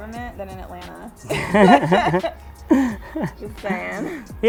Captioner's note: both laugh